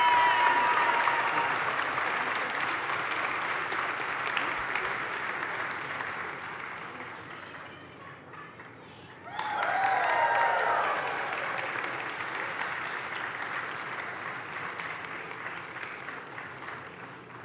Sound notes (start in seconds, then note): 6.8 applause; 14.7 cheering and Applause